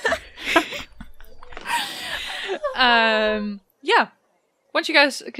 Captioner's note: anguished laughter